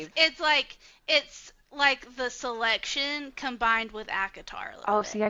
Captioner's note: none